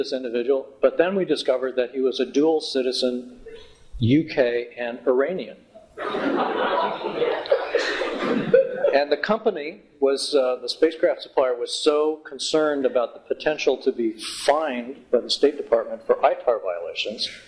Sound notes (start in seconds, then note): 5.8 laughter